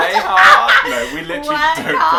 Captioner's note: laughter